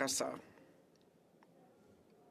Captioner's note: speaking French